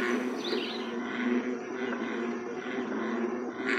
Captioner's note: frogs calling